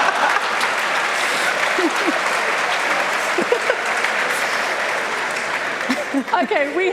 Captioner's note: applause and Laughter